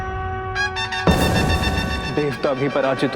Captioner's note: bangs